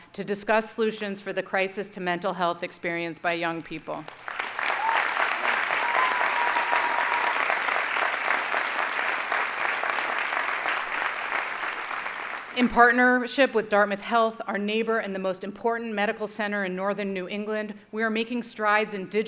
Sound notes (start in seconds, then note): 4.0 audience applauding